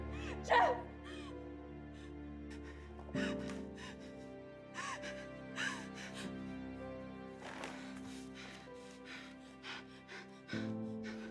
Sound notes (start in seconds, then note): 5.2 heavy breathing